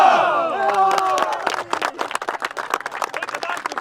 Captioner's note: cheering